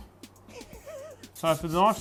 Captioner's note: laughs